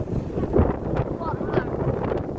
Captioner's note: strong wind